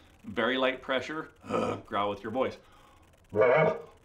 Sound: elk call; low groan

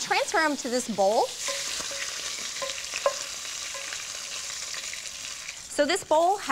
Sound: sizzling

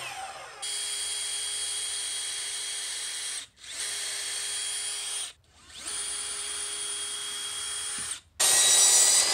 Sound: drill

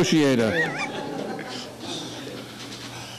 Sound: laughing

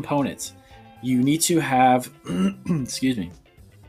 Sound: clearing throat

